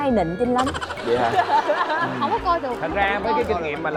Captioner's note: laughter